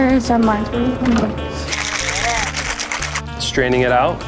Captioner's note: shaking